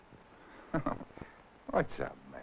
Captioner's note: chuckling